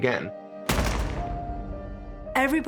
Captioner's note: gunshots